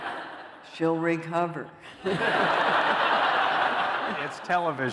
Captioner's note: laughter